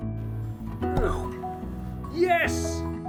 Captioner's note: minor grunt of strawberry-throwing exertion